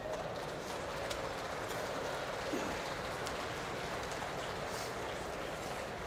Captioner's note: applause